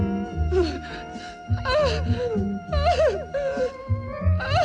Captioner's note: Kinojo whimpering